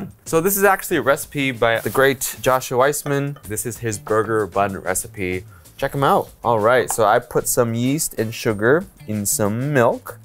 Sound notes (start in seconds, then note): none